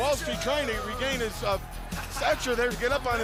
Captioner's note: stutters